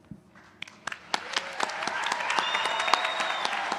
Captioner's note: applause